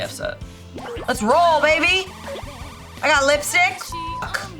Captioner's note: beep